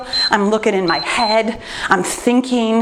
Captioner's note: timer beeps